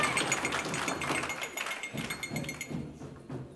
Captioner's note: glass clinking